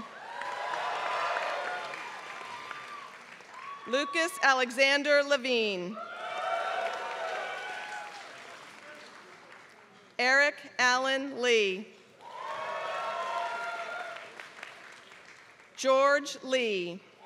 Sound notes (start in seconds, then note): 0.0 applause; 6.2 applause; 12.2 applause